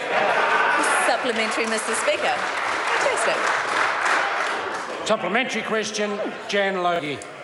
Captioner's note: members applaud